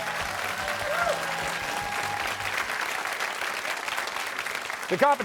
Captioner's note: cheers and applause